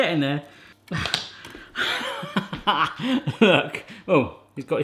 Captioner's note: laughing